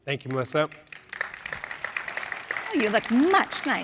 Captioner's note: applause